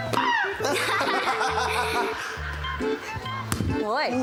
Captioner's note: shrieks, laughs